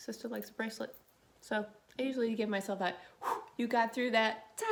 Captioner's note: exhales